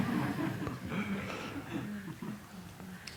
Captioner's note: laughter